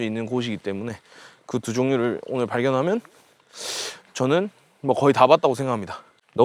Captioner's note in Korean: 콧방귀